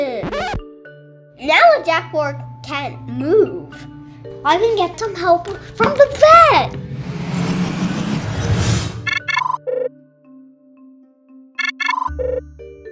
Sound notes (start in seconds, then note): 6.0 magical call sound